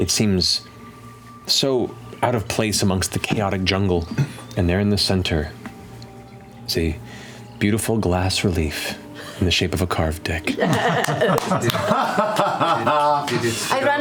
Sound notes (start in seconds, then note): 10.7 claps; 12.2 laughter